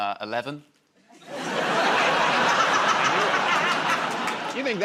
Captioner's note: laughter